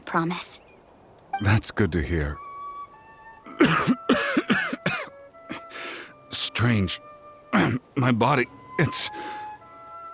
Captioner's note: cough